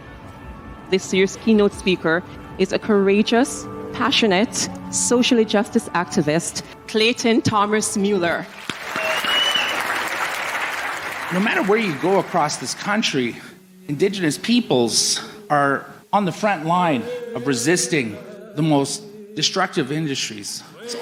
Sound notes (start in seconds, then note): 8.4 applause